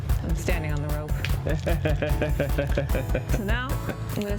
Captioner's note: laughs